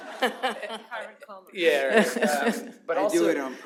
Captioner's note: laughter